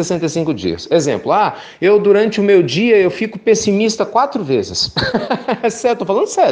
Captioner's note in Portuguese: risos